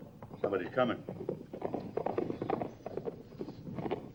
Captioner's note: hoofbeats